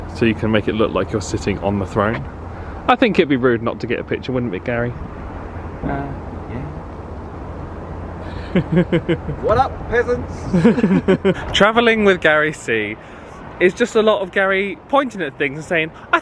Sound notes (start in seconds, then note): 8.3 chuckles; 10.4 both laughing